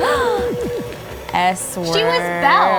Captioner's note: both gasp